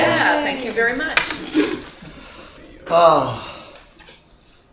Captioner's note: sigh